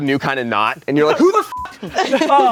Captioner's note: everyone laughs; beep